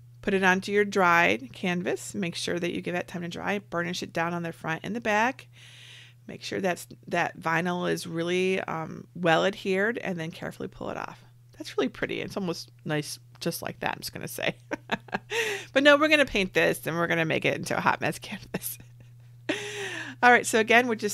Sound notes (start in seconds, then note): 14.6 laughs; 19.1 laughs